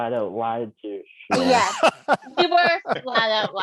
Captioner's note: chuckles